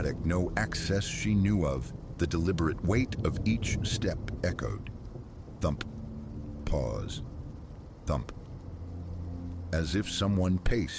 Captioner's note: thump… pause… thump